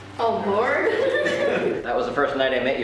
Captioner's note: laughs